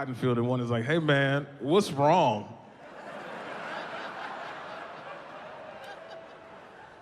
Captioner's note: audience laughing